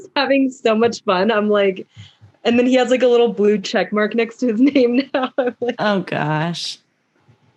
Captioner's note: laughs